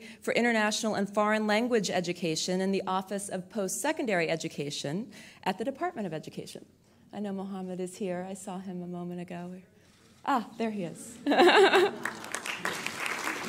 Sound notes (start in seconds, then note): 11.2 laughter